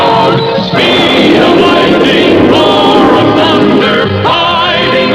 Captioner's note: lighting Strikes